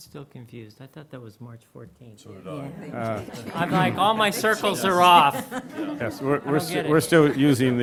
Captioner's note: laughter